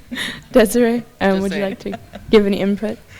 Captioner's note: laughs